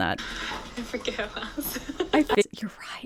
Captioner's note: laughs